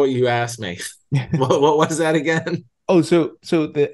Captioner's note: laugh